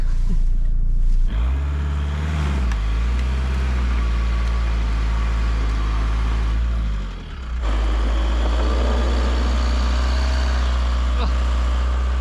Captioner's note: engine rumbling